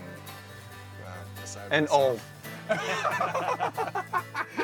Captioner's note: both laugh